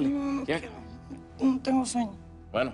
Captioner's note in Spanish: none